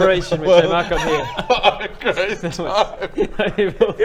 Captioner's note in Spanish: risas